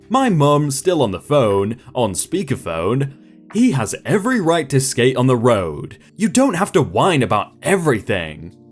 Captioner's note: speaker Phone